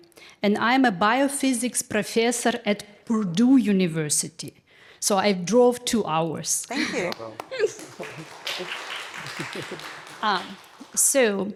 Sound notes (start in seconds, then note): 7.0 attendees applauding; 7.5 chuckling